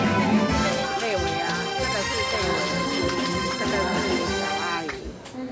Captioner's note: speaking in foreign language